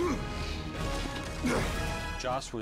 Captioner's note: grunts